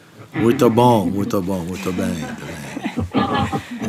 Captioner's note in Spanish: en portugués